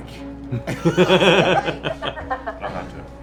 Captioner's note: laughter